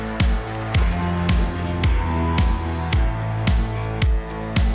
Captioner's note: fragments flutter